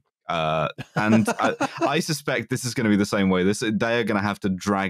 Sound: laughter

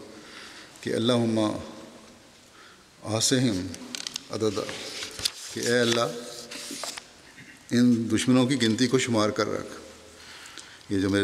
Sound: Arabic

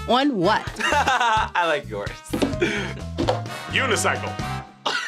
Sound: laughs

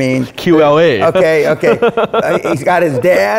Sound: laughing

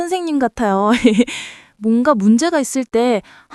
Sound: laughs

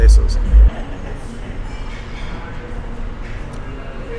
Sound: restaurant clamoring

